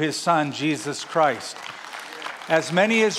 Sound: applause

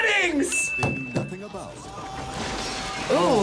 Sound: bell rings

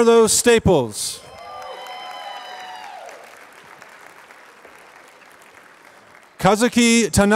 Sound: applause

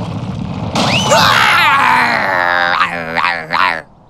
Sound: roaring

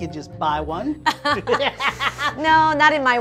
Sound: laughing

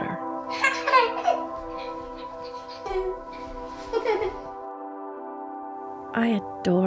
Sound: laugh

